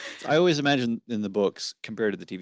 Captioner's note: laughter